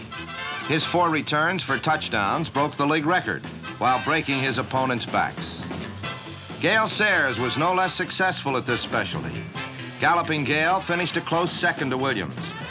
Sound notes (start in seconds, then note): none